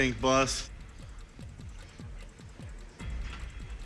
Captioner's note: clock ticking